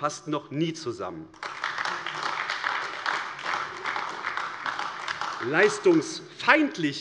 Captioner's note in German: Beifall AfD